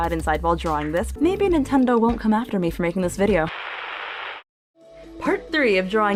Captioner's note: static